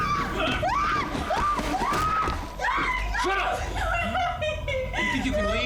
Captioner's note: screaming